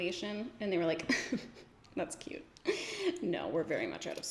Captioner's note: giggles